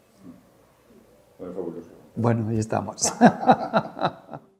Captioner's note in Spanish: risas